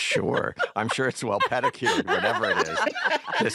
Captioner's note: laughs; laughter